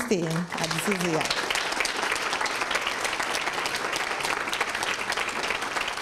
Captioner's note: applause